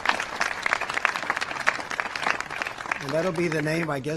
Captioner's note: applause